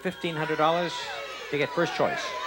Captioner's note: audience shouting